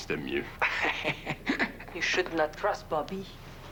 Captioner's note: Rire